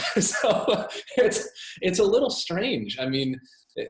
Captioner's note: laughs